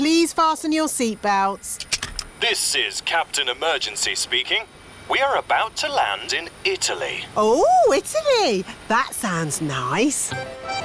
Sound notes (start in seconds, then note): none